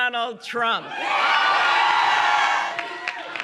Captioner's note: cheering and applause